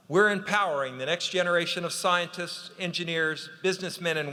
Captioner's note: none